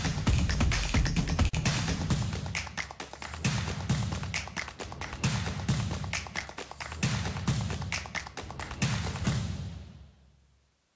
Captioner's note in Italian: Applauso